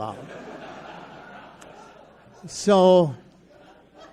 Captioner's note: audience laughs